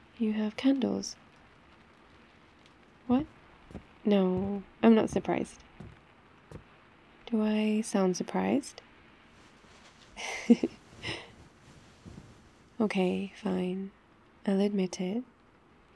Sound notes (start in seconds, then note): 3.1 footsteps; 10.2 laughs